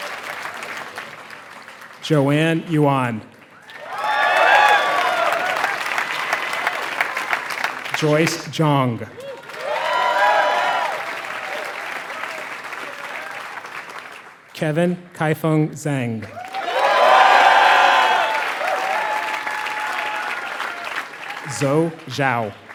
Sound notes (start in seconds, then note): 0.6 applause